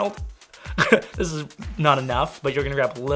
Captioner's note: laughs